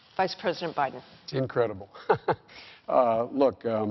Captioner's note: chuckles